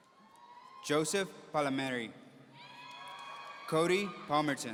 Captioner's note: audience cheering; audience cheering